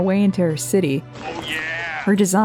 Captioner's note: Kool-Aid Man Voice